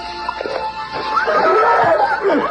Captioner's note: whinnies